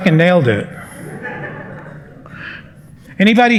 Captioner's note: laughter